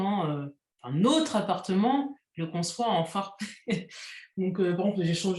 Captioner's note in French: rires